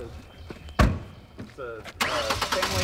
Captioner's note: door slams